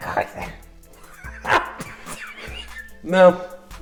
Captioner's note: more hysterical laughter